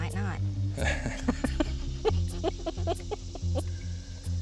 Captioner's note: both laugh